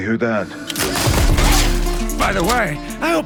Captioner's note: gunfire clatters